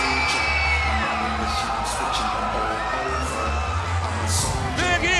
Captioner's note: crowd cheering